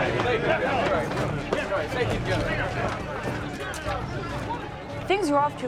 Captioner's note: men arguing